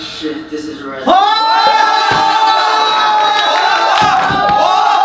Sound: everyone cheers

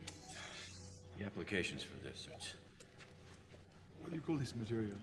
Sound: tsk

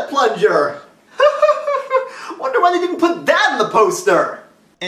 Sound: laughing again

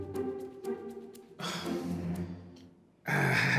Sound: sighs

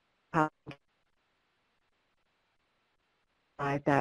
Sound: no audio

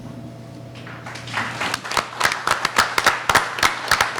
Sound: applauding

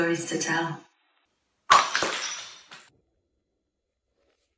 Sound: glass smashes

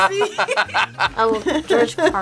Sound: both laugh

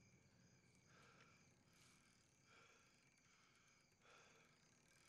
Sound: heavy breathing

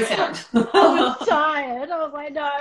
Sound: laughter

